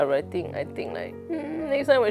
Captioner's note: sad puppy noises